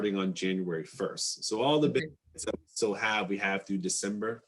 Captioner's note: static interference